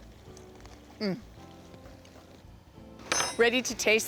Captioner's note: crunching